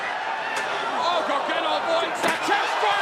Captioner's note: crowd chatter